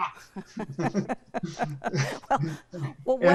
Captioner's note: laughs